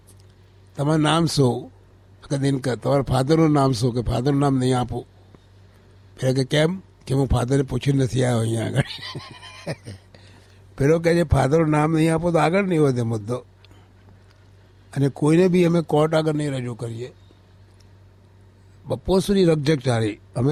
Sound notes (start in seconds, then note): 8.7 laughs